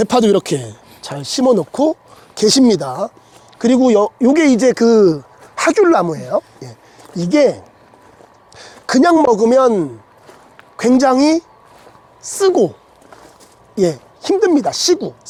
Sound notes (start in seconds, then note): 6.1 laughing